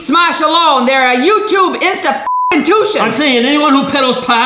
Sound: beep

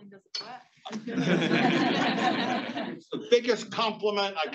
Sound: congregation laughs

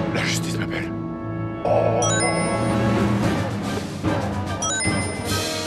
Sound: Sounds of Sonic's rings

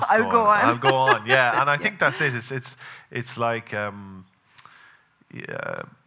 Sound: laughing

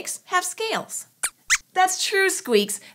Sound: squeaks squeaks

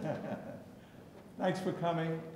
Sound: chuckling

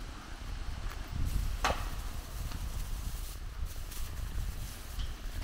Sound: wind blowing

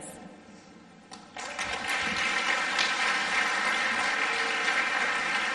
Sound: audience applauds

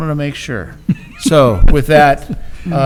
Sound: laughs

